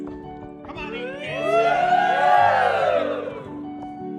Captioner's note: cheering